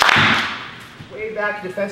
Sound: clap

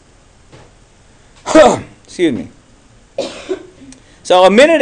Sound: coughs

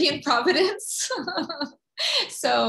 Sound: laughing

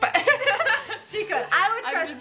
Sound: both laughing

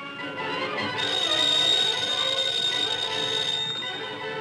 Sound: tires squealing; phone ringing

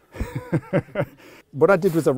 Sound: both men laughing

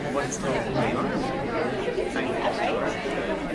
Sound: speaking faintly

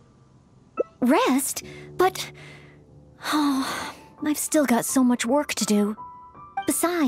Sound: sigh

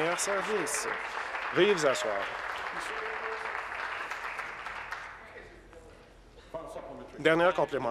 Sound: applause

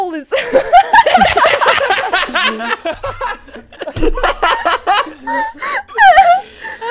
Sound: everyone laughs; laughs

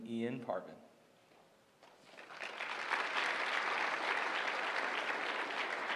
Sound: applause

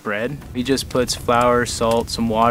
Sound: fire crackling

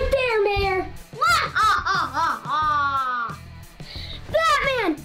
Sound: mysterious Laugh

